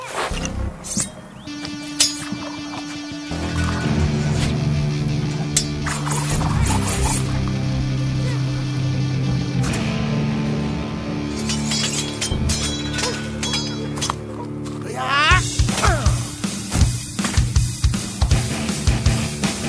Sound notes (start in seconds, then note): 0.1 tense music; 5.8 swords slashing; 14.8 groans; 16.5 upbeat rock music